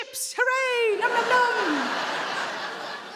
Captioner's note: audience laughing